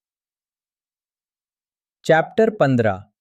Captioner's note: pause